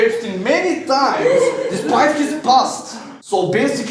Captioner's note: laughing